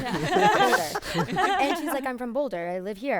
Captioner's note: group laughing